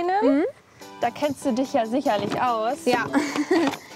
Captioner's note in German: lacht